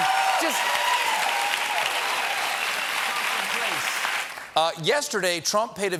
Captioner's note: cheers and applause